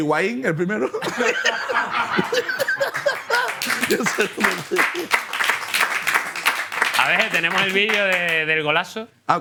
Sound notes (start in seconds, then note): 1.0 laughter and applause